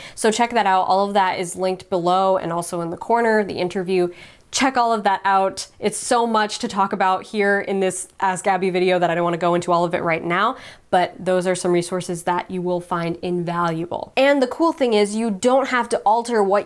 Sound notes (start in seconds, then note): none